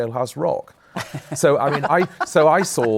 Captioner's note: laughter